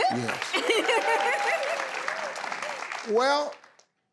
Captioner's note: laughing; audience applauding